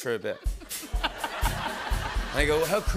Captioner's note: laughter